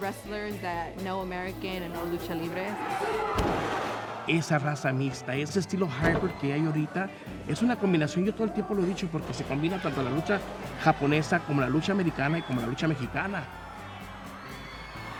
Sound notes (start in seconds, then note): 3.8 cheering; 3.8 speaking Spanish